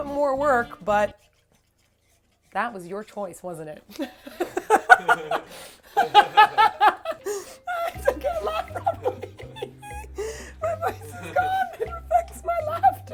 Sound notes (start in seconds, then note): 3.9 laughter